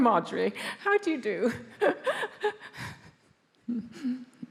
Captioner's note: laughs